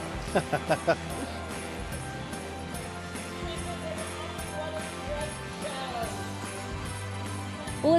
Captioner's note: laughing; holiday music